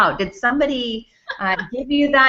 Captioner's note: laughs